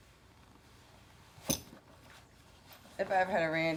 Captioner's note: spurs clattering